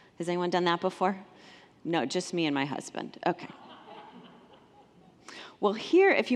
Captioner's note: congregants laugh